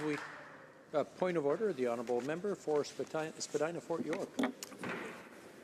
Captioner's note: some applause